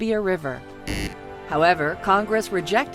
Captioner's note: buzzer